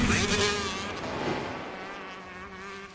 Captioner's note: whoosh sfx